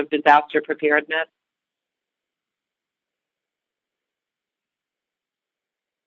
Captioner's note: silence